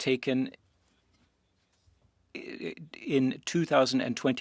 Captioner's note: speaking French